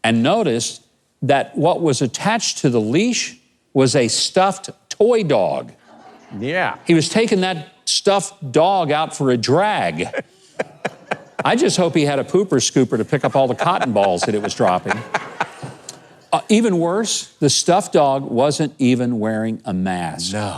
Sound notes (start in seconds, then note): 5.8 audience laughing; 9.8 laughs; 15.4 audience laughing